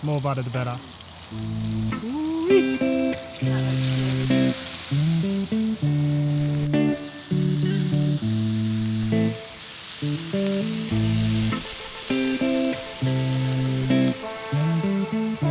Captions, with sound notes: The more butter the better. [butter sizzling] [mushrooms sizzling]